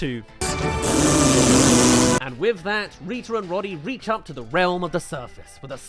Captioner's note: raspberries